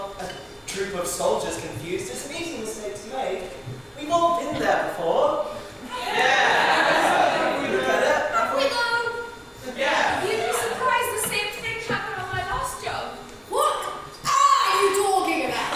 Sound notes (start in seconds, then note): 9.7 audience shouts in agreement